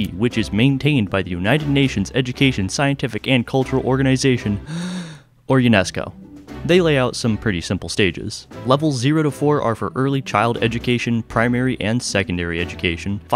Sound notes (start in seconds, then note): 4.6 deep breath